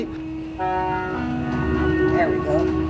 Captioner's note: bus honking